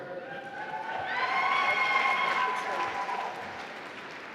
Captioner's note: applause